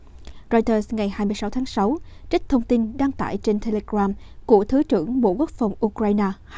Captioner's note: Ukrainian